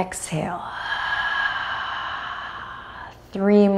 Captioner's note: deeply exhales